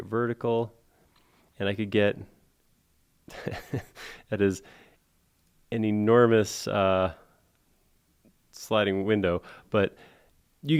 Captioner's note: laughs